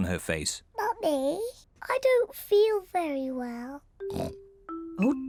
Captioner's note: oinks